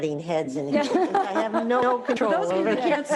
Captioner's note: they laugh